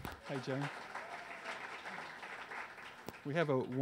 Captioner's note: audience applause